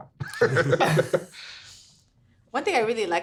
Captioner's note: everyone laughing